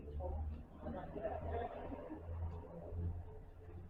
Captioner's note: laughter